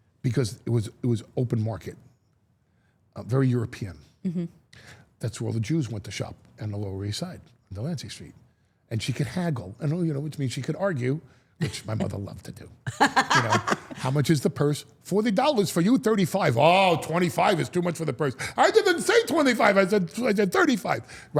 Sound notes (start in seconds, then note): 12.9 all laughing